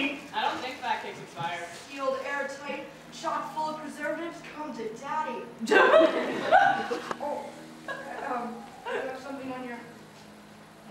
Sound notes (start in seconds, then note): 5.7 audience laughter